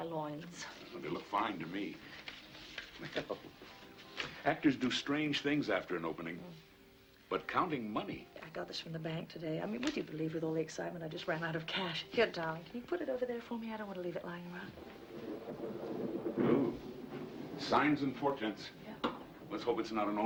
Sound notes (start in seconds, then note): 14.7 thunder